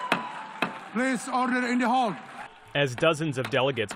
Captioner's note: cheering